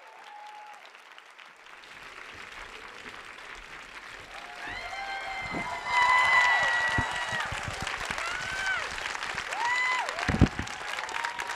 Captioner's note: applause